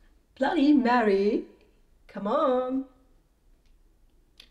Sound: none

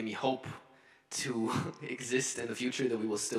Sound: chuckles

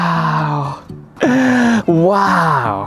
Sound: gasps

